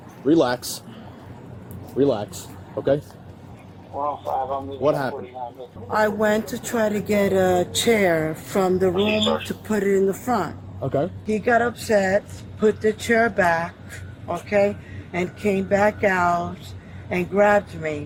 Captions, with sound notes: Relax Relax Okay? (Radio chatter) What happened? I went to try to get a chair from the room to put it in the front Okay He got upset, put the chair back, okay, and came back out and grabbed me